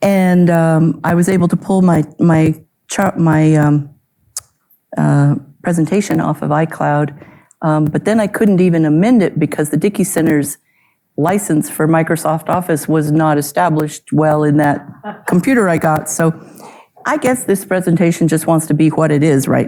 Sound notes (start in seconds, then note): 14.8 audience member chuckles